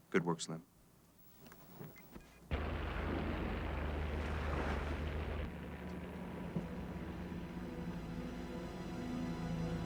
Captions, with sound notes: - Good work, slim. (boat motor rumbling) (ominous music)